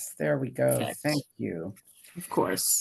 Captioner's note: faintly speaking